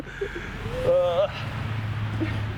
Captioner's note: groaning